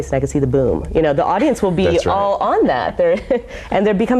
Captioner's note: laughs